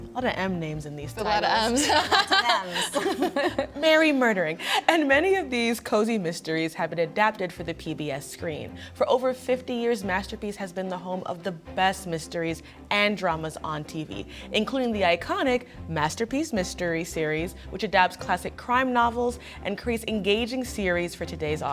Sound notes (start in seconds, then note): 1.6 panelists laughing